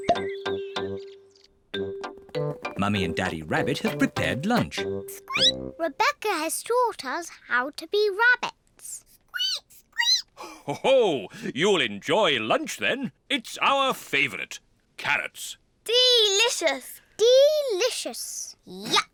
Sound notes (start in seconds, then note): 5.2 squeaks; 8.8 peppa and george squeak; 10.6 laughs